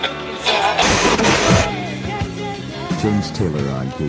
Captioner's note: radio static